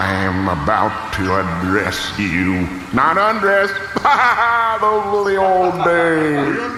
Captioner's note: laughs